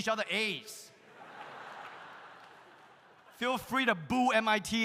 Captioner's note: audience laughs